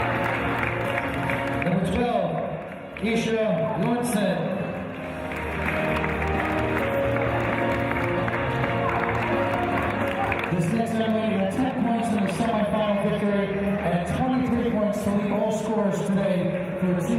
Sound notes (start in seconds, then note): 5.6 applause